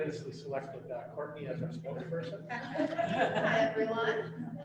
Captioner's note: laughter